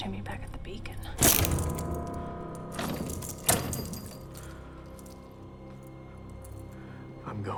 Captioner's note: suspenseful music; chains rattling